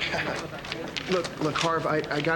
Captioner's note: chuckles